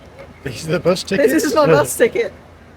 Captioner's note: laughs